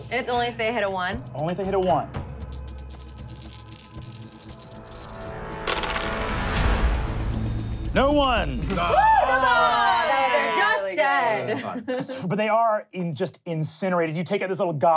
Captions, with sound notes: It's only if they hit a one? - Only if they hit a one. (dice rolling) (intense music) No ones! (cheering) - No bombs, just dead. - But they are just incinerated, you take out this